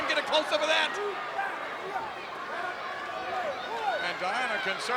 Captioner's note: crowd yelling